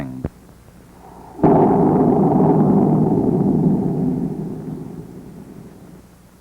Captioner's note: sound of an explosion